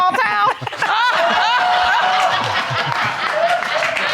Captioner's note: all laughing and applauding